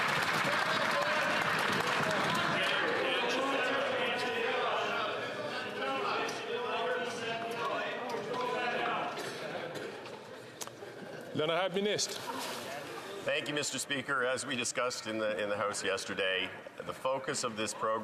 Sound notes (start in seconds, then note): 5.7 chatter